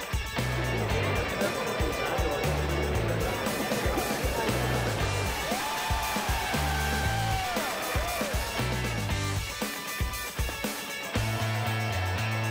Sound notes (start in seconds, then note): 0.2 upbeat music; 5.7 crowd cheering; 8.2 upbeat music